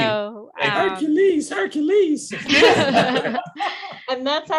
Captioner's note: laughter